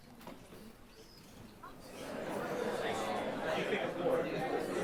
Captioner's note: indistinct chatter